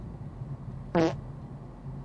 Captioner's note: fart